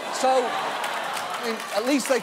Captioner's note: audience laughs